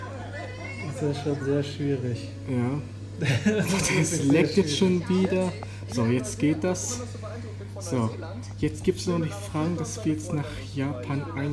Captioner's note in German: Er lacht